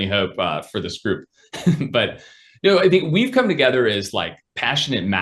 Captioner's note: laughs